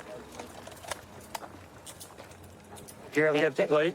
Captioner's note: handcuffs clicking